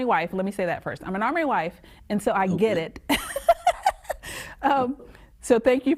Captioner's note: laughs